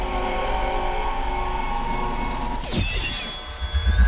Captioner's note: sirene